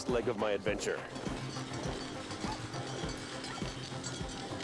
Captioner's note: groans; dogs barking